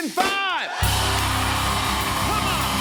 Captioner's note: cheers and applause